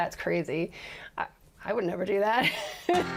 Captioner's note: laughs